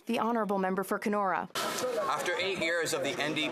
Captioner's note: some Applause